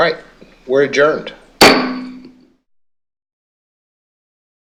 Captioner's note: gavel sounds